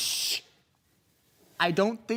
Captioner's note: soft breathing